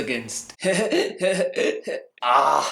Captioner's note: obnoxious laughter